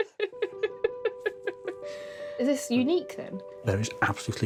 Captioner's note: laughs